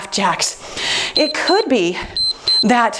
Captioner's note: timer beeps